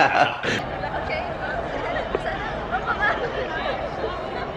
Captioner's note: all of us start laughing like idiots; distant chatter